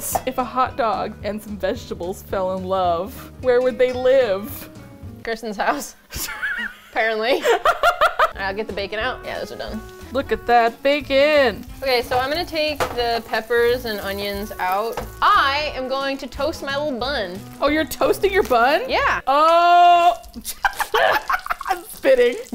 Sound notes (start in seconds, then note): 6.1 laughs; 10.5 singsong; 19.6 laughs